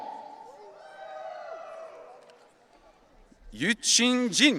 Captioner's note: audience cheering